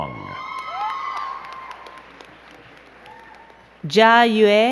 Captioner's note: crowd cheering and clapping